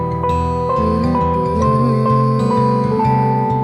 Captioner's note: humming